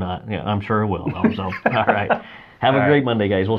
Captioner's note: laughing